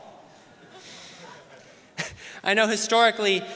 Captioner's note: audience laughing